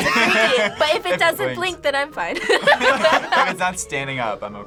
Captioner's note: laughs